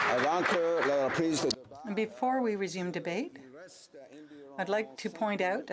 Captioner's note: applause